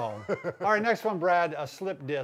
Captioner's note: laughing